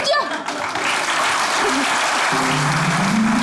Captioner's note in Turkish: Alkış sesleri